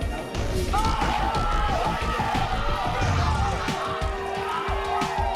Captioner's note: crowd cheers